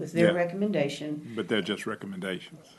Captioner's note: multiple voices